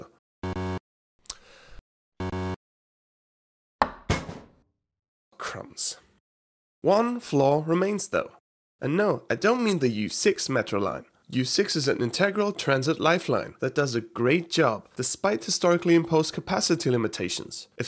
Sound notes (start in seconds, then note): 0.4 beep beep; 1.9 beep beep; 3.4 crash